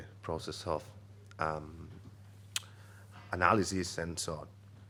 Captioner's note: clicks tongue